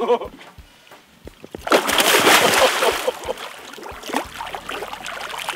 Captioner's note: splashing